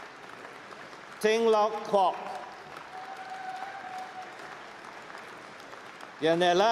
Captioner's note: applause